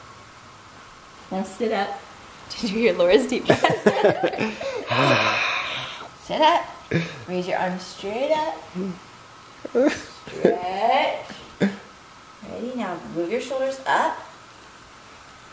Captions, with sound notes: Now sit up. Did you hear Laura's deep breath? (laughing) (sighs) Sit up. Raise your arms straight up. Stretch. Ready? Now move your shoulders up